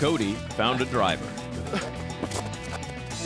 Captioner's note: grunts, thuds